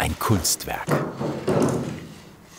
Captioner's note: the clatter of wood